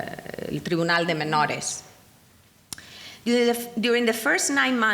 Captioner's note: speaking in foreign language